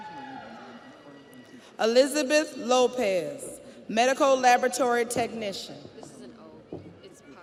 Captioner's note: audience cheers; audience applauds